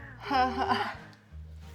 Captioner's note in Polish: śmiech